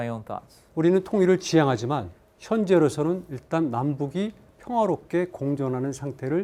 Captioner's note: speaking in Korean